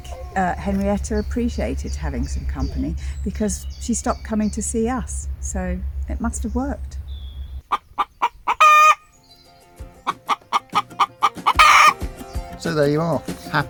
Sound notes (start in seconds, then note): 10.5 hen crowing